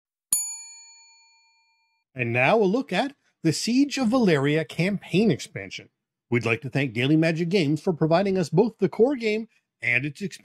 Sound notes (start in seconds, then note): 0.3 ding